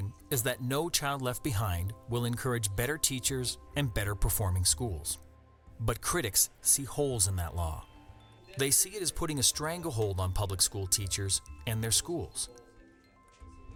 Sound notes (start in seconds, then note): none